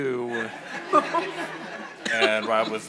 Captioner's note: audience laughing